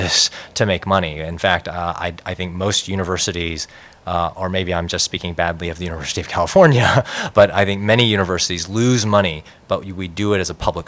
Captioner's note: laughter